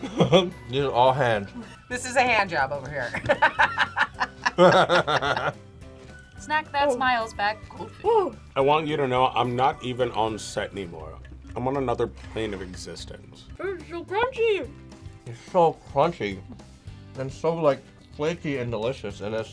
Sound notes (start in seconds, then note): 0.3 laughs; 3.0 both laugh